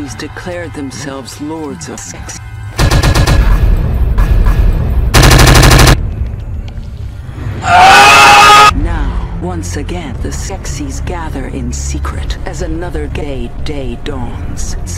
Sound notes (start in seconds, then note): 2.8 imperial banging